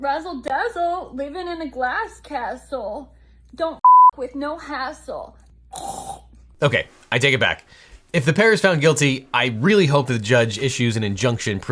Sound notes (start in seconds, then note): 3.8 beep